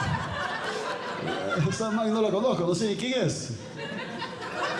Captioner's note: audience Laughing; speaking Spanish; audience Laughing